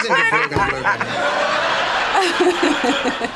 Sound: both laugh

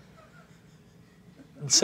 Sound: giggling

